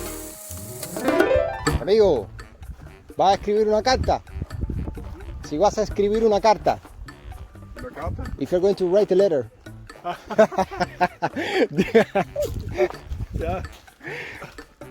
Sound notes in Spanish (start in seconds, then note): 5.9 risas